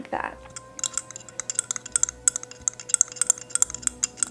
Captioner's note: nails clinking